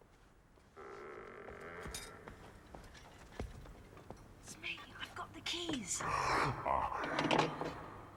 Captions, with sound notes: [door creaking] IT'S ME. I'VE GOT THE KEYS. [giant grunting]